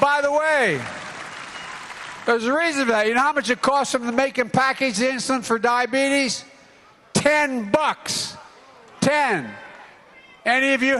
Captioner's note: cheering